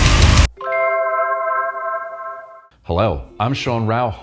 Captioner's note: graphic chimes